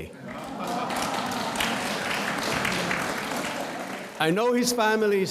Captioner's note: audience applauds